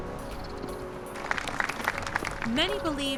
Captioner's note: applause